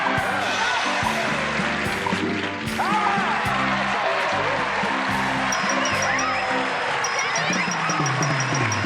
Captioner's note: applause, cheering